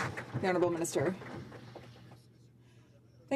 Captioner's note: some Applause